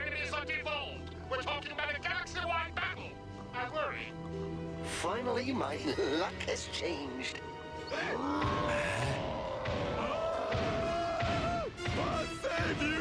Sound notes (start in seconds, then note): 7.9 roaring; 8.0 gasps